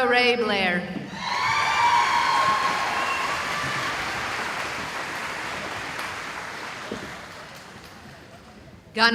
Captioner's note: cheering